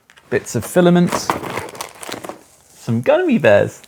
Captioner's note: plastic crinkles; contents rattling